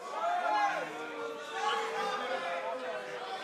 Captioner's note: crowd chatter